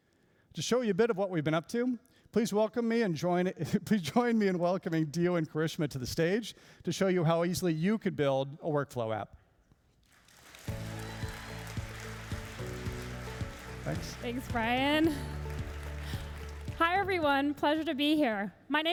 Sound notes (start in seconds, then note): 10.0 applauding and cheering; 10.6 upbeat music